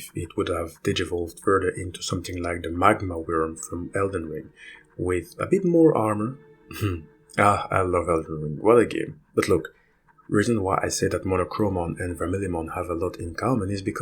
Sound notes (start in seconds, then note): 6.7 laughs